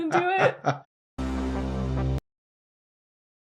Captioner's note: dramatic buildup to a hand fart